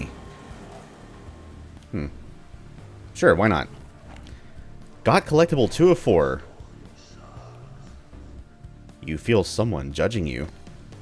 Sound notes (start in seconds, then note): 0.0 riff plays; 6.4 mysterious whispering